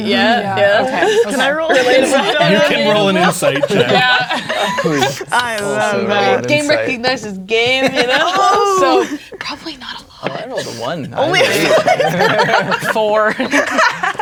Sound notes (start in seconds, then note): 1.3 all speaking and laughing at once; 5.5 others talking and laughing; 9.2 whispers; 11.2 laughing; 11.2 players laughing